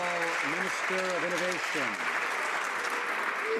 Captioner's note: some Applause